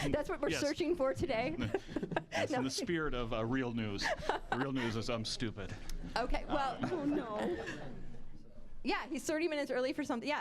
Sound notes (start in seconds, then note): 1.6 laughing; 6.5 audience laughing